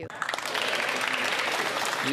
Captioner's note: speaking French